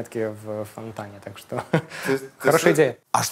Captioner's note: chuckles